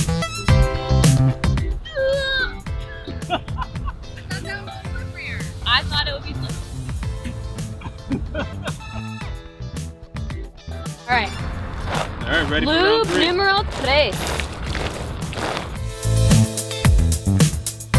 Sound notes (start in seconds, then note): 2.7 laughing; 7.1 spitting; 7.2 laughing; 14.6 sloshing